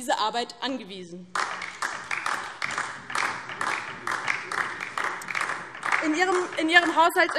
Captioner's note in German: Beifall DIE LINKE